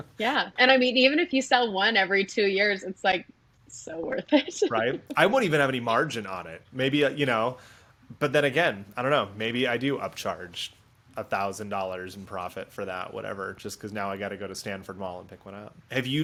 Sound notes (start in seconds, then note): 0.0 giggling; 4.2 giggling